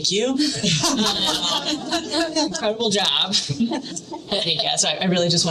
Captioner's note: laughter